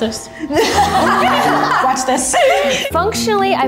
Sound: group laughs

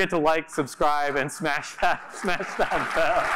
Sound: applause

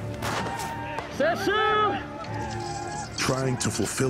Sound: speaks blackfeet

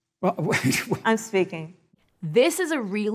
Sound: laughs

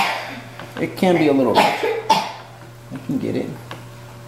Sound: voice drowned out by child coughing

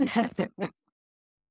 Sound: laugh

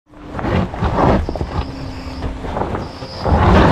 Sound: tires slipping

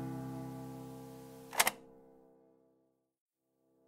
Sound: click

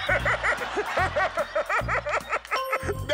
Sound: laughter

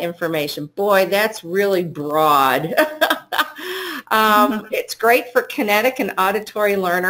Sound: laughter

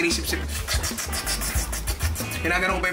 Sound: slurping sounds

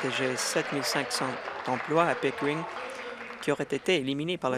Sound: applause

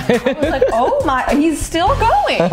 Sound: laughs

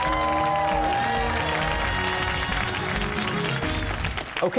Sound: cheers and applause

